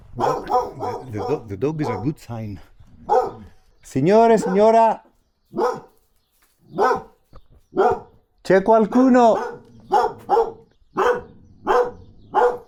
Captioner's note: dog barking